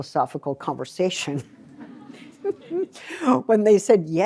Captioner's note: laughter